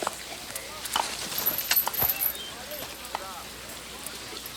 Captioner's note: chain clinks